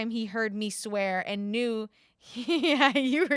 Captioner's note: laughs